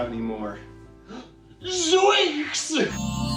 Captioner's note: gasp